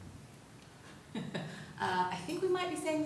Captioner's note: laughs